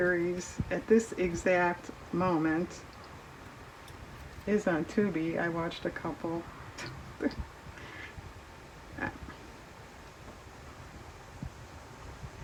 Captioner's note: laughs